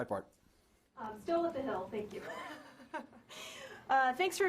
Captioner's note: laughing